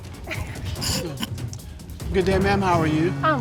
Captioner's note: snickering